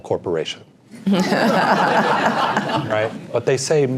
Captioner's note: laugh